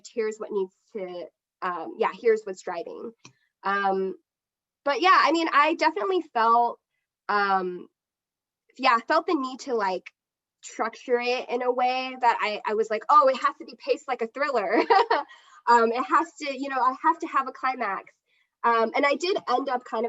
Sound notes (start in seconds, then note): 14.7 chuckles